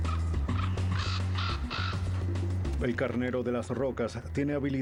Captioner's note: graznidos